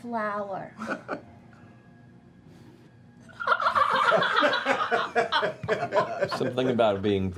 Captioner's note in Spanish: risas